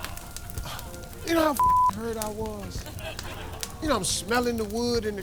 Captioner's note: crowd groaning; beeping